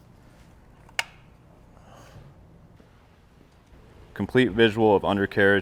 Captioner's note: equipment clicks